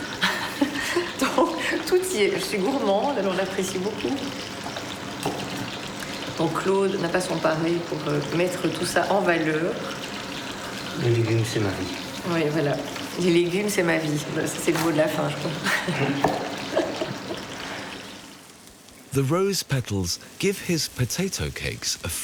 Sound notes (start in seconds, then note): 11.0 speaking in foreign language; 15.6 both chuckling